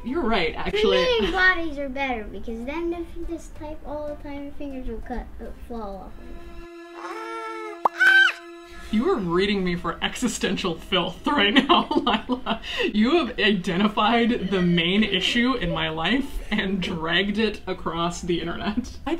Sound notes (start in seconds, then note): 5.9 eerie music; 6.9 screaming